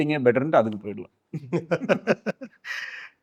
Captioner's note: laughs